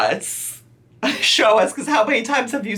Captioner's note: giggles